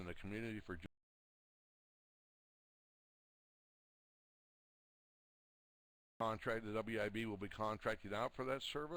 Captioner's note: audio drops